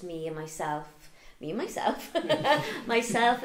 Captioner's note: chuckles